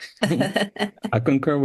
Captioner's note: foreign speaking